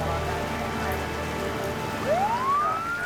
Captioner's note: siren wailing